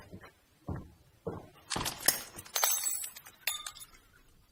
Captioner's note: glass splintering